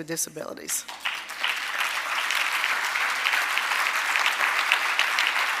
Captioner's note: audience applauding